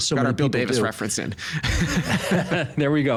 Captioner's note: both laughing